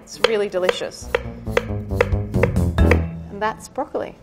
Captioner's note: knife tapping against wooden board